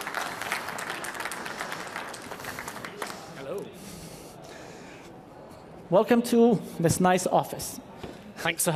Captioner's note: applause